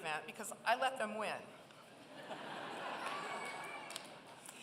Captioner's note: laughter